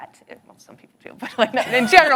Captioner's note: all laughing